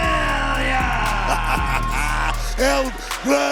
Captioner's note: Booker laughs